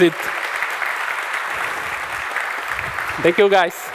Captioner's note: applause